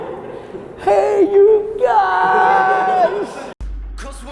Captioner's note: group laughter